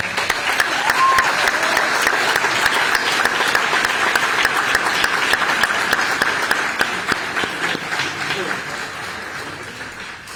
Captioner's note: applause